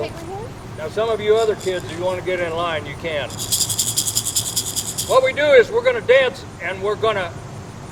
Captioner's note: shakes rattle